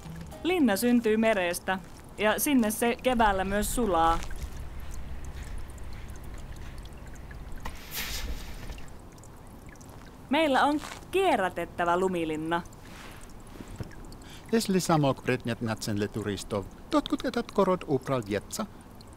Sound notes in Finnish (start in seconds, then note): 5.0 vesi ropisee; 7.7 lumi läsähtää